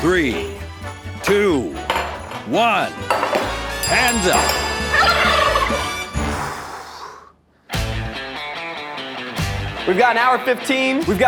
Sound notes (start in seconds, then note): 4.7 bell ringing; 4.9 turkey gobbling; 5.8 upbeat music ends; 7.7 upbeat music